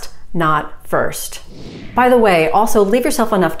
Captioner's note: air whooshing